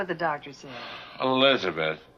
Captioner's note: David sighs